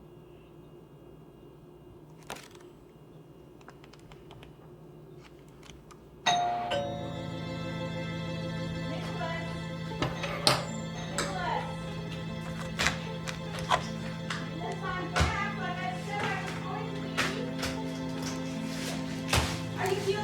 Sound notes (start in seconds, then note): 6.1 doorbell rings; 7.5 suspenseful music